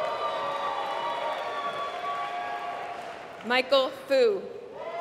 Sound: applause

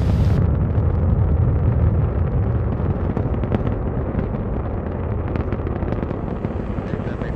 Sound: rocket fuel burning

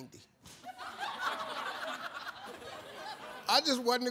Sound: audience laughs

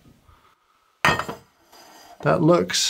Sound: canisters clink

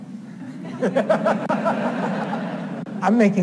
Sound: audience laughs

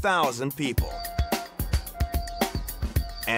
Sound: ship honks

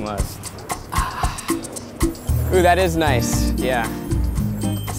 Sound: sighs

